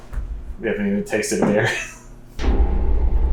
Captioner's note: laughs